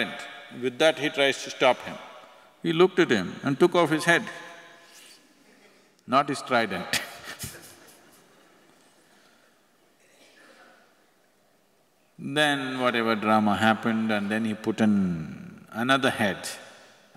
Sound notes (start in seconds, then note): 10.1 laughs